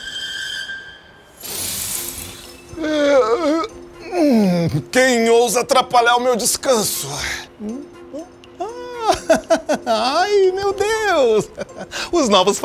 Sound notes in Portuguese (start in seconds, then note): 2.8 Homem bocejando; 8.6 Homem ri